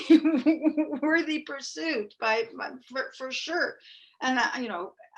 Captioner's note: chuckling